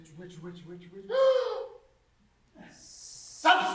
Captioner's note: gasp